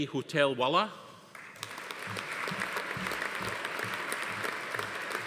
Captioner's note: audience applauding